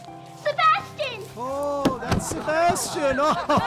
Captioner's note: luggage banging